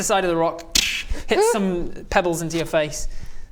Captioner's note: tssxch